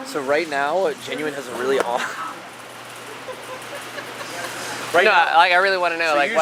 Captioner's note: laughs